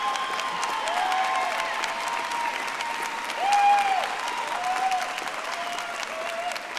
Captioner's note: audience applauding